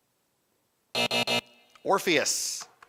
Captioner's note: buzzing